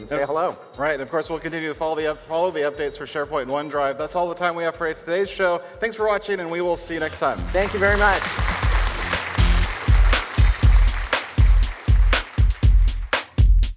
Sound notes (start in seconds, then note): 9.1 audience applauding; 10.6 energetic music